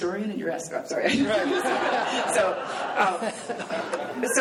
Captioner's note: laughing